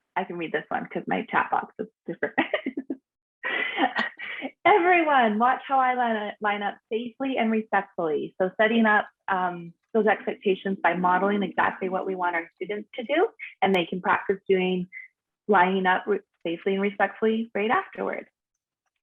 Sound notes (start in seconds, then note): 2.5 laughs